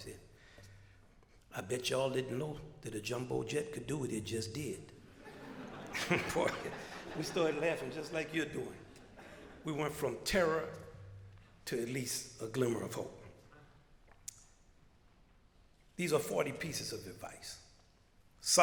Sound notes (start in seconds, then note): 5.0 crowd laughter